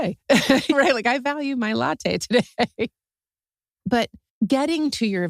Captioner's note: laugh; laugh